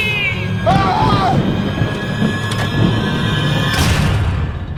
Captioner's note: dramatic music; Mac yells; door slams